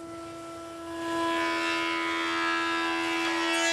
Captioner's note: vibrating buzzing